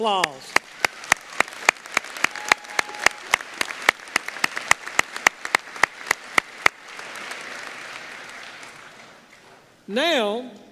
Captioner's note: applause